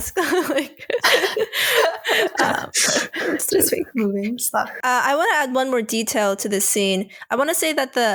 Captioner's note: laughter